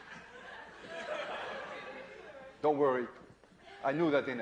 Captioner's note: laughter